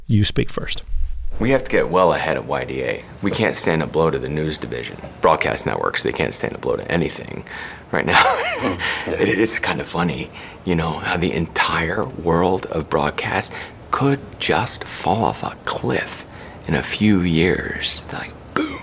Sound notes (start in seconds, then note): 8.1 laughter